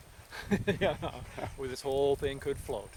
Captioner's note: chuckles